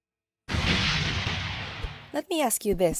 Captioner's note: explosion